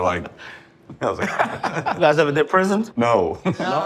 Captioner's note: all laughing